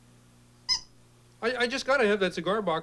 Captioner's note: quack